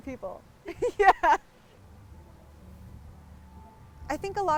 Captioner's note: laughing